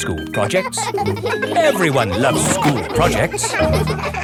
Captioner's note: children laughing